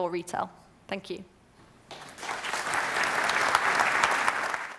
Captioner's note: applause